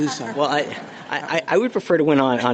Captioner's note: laughter